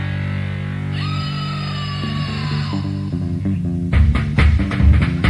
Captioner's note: woman screaming; funky music